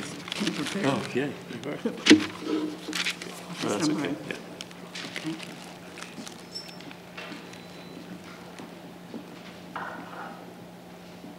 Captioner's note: background Conversation